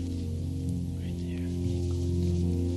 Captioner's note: whispering